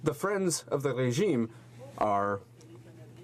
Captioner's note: speaking french